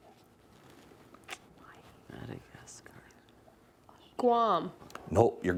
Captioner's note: whispering